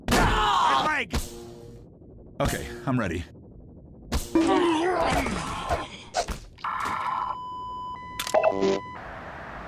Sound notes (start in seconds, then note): 1.0 stun baton Hits